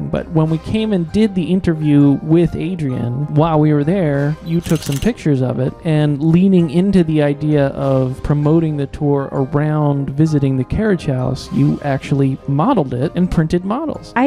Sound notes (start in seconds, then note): 4.6 SFX: camera shutter noise